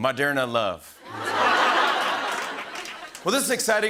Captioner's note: laughter